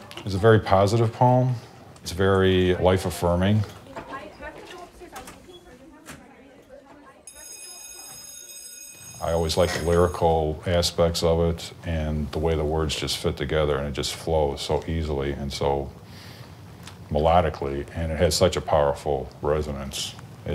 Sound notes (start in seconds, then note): 7.2 school bell rings